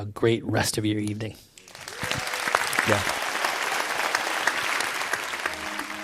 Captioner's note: applause